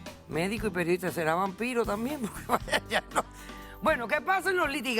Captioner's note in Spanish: Ríe